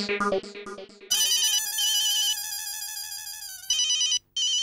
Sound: phone ringing

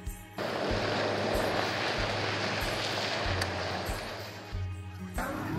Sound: wheels turn on wet pavement

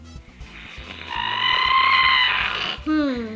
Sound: groans

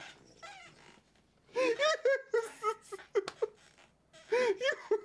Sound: enters room and continues laughing

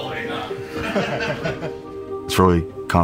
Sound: group laughter

